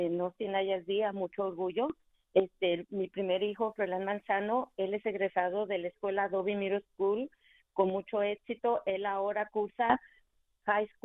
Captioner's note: speaking in spanish